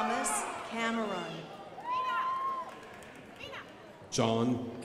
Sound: crowd applauding

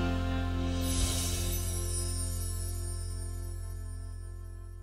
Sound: gentle folk music; bells chiming

